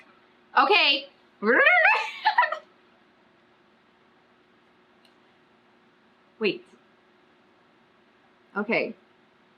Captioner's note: makes re-winding noise